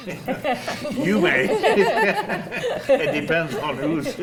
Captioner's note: panel laughs